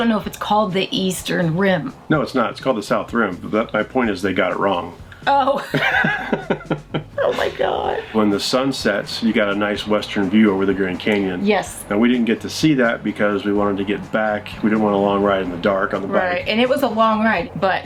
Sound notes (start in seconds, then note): 5.2 laughing